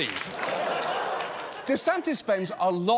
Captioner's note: laughter, applause